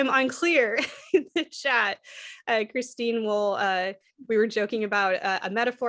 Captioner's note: laughter